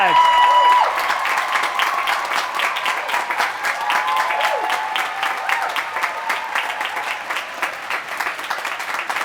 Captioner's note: applause